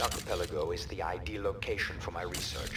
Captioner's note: gun firing